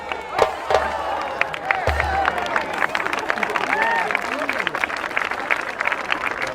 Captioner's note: applause